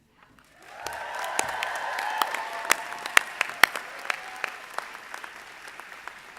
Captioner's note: audience applauding; audience cheering